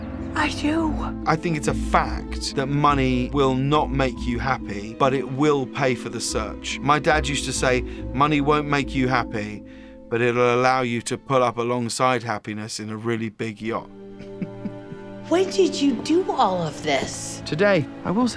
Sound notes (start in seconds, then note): 14.2 chuckles